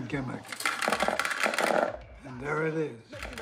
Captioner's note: marbles clattering